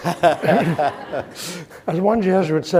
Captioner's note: all laughing